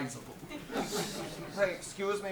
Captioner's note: audience laughs